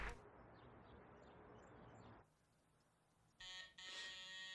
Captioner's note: birds chirp; doorbell buzzes